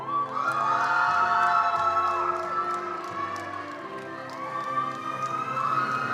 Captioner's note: attendees cheering and applauding